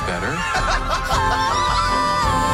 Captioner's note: laughing